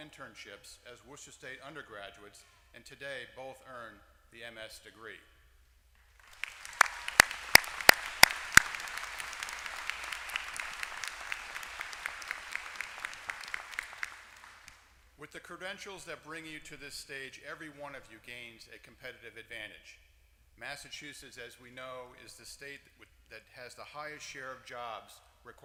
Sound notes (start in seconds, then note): 6.0 applause